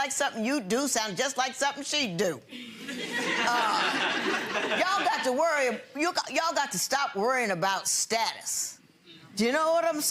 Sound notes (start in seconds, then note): 2.8 audience laughing